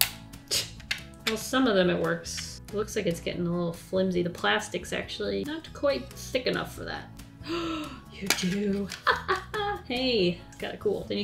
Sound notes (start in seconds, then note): 7.4 gasps